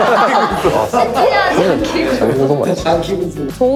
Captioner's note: laughs